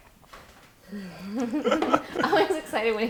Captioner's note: laughing